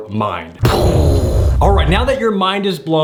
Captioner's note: exploding